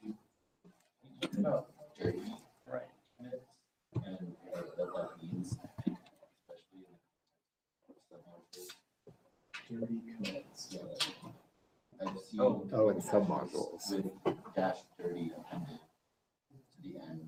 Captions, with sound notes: (laughing) Oh, it's sub modules. Cash 30.